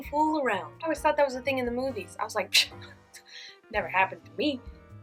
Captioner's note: pshh